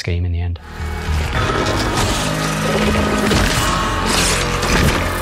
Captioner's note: eerie screeching noises